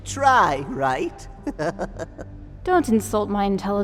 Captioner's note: chuckle